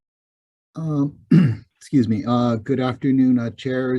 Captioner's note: clearing throat